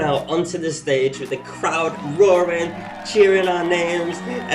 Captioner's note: crowd roaring